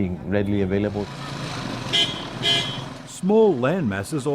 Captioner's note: horn honks